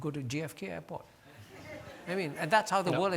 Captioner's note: audience laughing